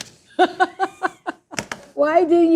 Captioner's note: chocolatier laughs